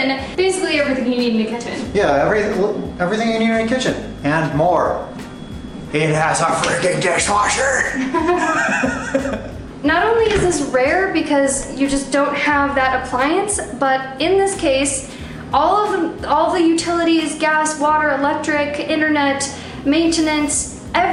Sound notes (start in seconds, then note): 7.9 laughter